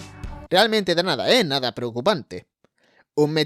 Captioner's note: sarcasm